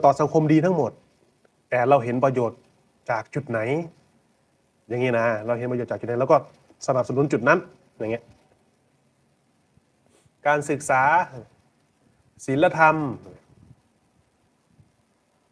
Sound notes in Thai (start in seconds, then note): 10.0 เสียงสูดหายใจ